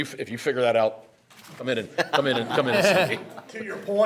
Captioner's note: members laughing